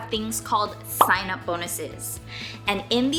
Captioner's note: bubble popping